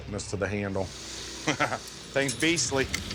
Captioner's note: laughs